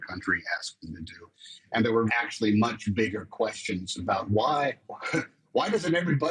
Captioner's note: chuckles